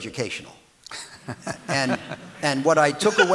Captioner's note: audience laughing